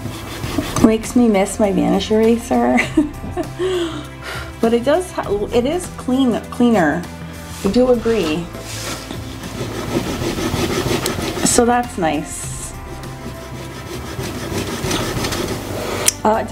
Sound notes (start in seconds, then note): 2.7 laughs; 4.0 blows; 9.3 eraser rubbing; 12.8 eraser rubbing